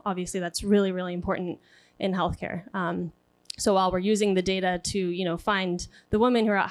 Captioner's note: speaking spanish